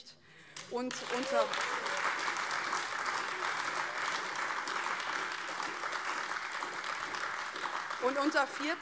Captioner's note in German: Beifall AfD